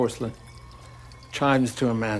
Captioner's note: urine splashing